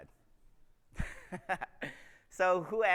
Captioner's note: chuckles